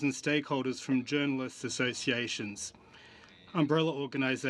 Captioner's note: speaking French